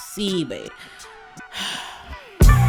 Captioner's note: sighs; upbeat music